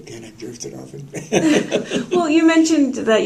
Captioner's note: laughter